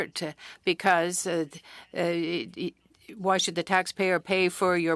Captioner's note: speaking French